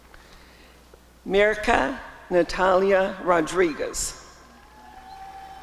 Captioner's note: applause and cheering